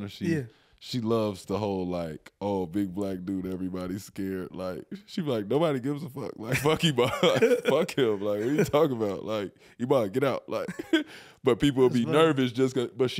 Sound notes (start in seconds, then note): 7.0 laughing